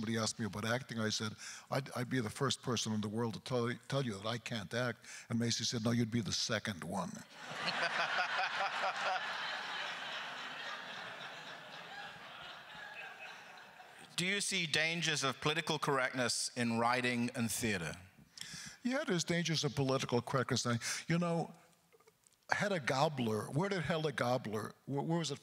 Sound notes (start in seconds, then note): 7.3 crowd laughter; 7.6 laughs; 10.5 laughter continues